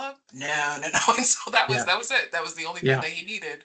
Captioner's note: laughing